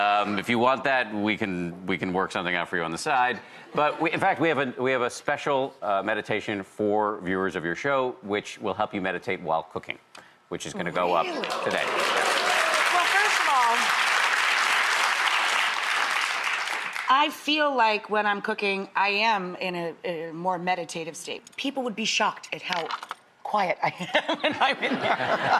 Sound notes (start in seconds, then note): 11.2 audience clapping